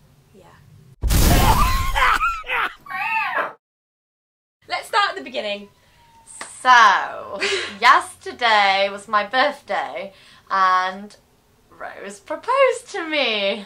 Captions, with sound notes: Yeah Let's start at the beginning So (laughs) Yesterday was my birthday And Rose proposed to me